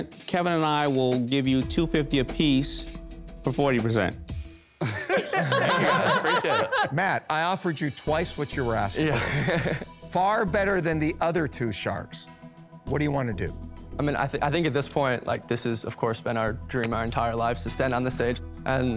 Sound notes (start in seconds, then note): 4.8 laughter